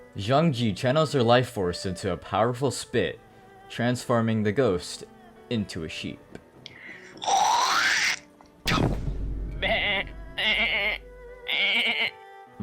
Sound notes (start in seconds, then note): 7.1 spit noise; 11.4 loud sheep noises